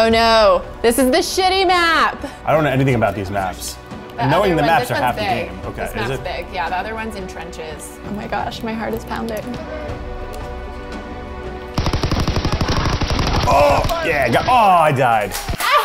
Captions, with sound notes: Oh, no. This is the shitty map! - I don't know anything about these maps. - Knowing the maps are half the game. This one's big, this map's big. Is it? - Yeah, the other's one's in trenches. Oh, my gosh. My heart is pounding. (automatic gun fires) - Oh, yeah. I got ... Oh, I died.